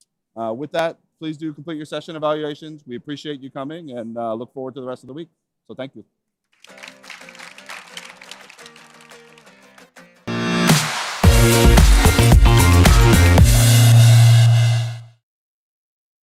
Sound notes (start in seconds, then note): 4.3 applause